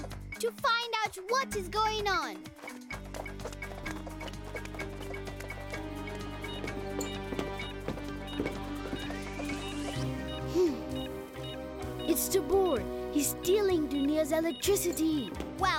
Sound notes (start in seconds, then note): 2.9 suspenseful music; 5.1 beeping